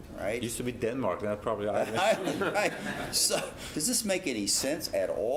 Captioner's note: laugh